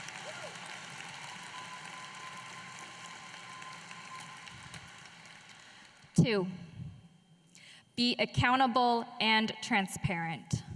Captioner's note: applause